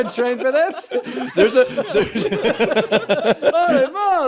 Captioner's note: laughter